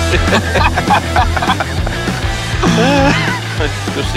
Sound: laughing

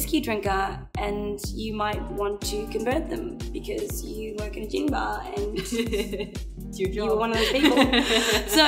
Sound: laughs

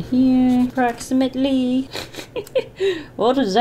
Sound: laughs

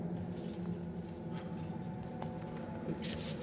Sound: sighs

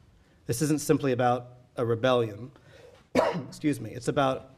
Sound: coughing

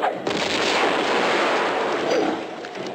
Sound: boom

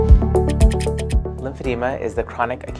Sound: typewriter clicking

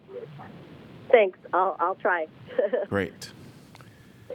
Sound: laughter

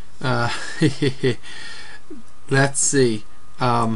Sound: nervously laughs

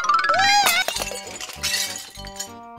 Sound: glass shattering

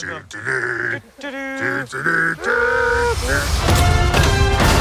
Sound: Harrison and Phoebe humming theme music

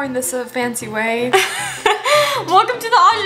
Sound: laughs

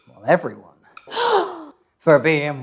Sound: class gasps

